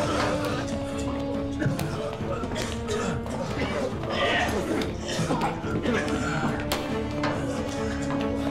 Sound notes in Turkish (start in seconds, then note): 2.4 Öksürme sesleri